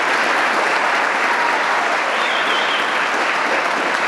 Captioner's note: applause